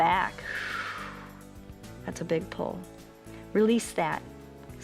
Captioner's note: exhales